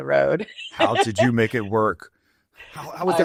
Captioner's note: laughs